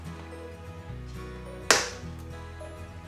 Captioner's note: lid clicking open